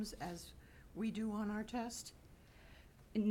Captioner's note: none